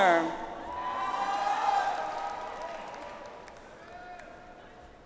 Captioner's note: audience applauds